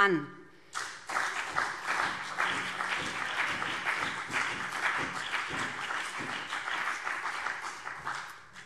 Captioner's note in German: Beifall BÜNDNIS 90/DIE GRÜNEN und CDU